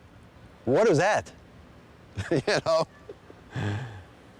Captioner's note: laughs